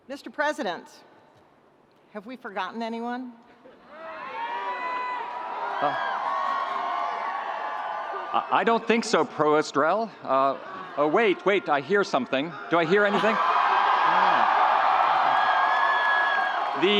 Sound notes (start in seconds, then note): 4.0 students screaming; 13.1 undergraduate students screaming